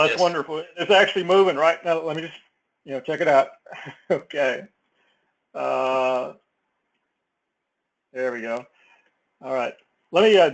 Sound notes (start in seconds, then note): 6.9 laugh